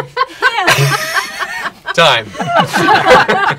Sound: laughter

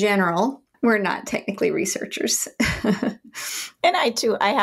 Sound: laughs

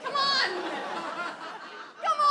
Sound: audience laughs

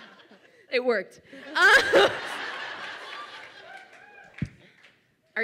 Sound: audience laughs

